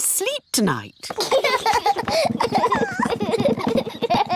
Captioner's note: children laugh